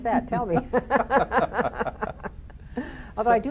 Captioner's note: laughing in unison